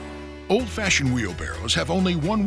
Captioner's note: voiceover